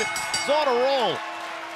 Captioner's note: bell ringing